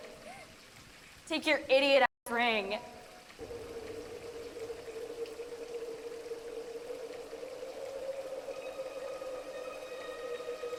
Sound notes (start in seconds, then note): 3.4 water splashes; 5.9 ominous music